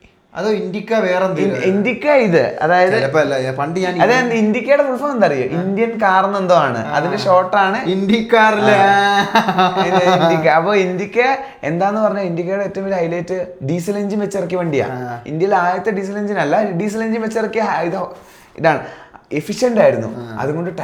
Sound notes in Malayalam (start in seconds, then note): 8.5 പൊട്ടിച്ചിരി